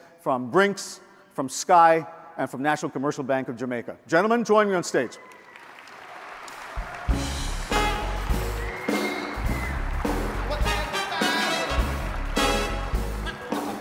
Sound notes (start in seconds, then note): 6.6 audience applauds; 8.8 jazz music